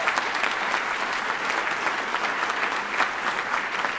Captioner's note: applause